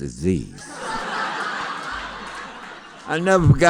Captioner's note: laughter